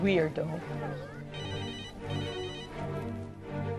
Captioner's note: cellphone ringing